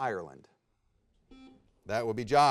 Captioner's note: buzzer beeps